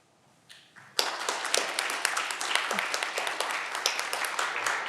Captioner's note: audience clapping